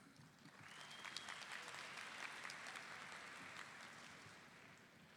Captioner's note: audience applauding